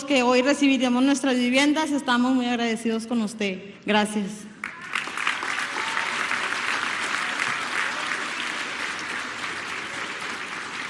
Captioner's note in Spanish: aplausos